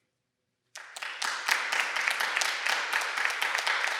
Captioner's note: applause